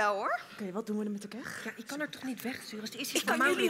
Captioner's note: whispering